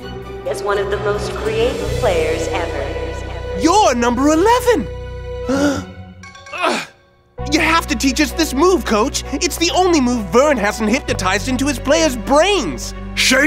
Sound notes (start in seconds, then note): 5.4 gasps